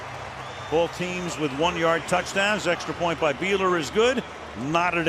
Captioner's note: pa announcement